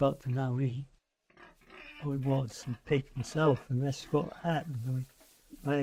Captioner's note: sound of pigs grunting